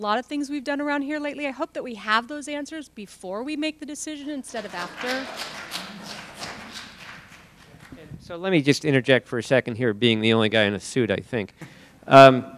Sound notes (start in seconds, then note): 4.5 applause